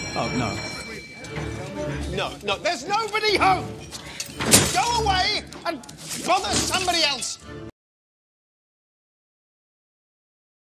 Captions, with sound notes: Oh, no... No! No! THERE'S NOBODY HOME! *weapons clatter* GO AWAY AND BOTHER SOMEBODY ELSE!!!